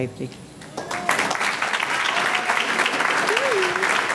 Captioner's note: audience clapping